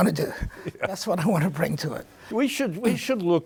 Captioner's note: chuckles